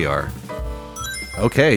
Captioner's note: Sonic Ring Chime